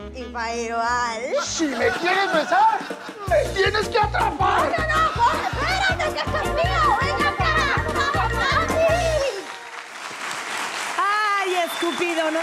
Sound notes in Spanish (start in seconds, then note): 8.4 Aplausos